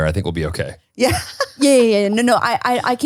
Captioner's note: laughs